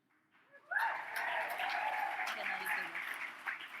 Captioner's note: audience cheers